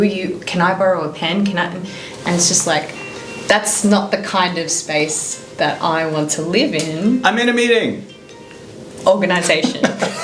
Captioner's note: phone rings